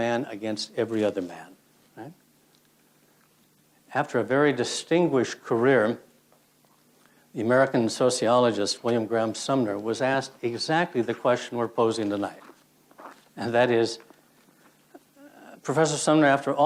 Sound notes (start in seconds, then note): none